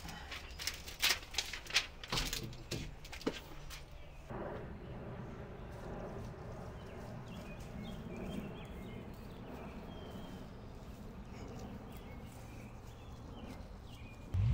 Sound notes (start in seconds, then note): 0.7 birds chriping